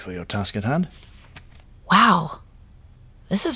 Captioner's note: pages turning